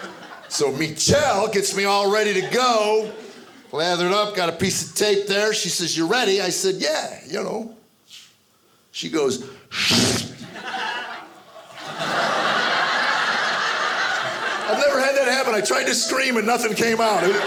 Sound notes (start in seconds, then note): 0.0 audience laughing; 9.8 imitating tape tearing; 10.4 audience laughing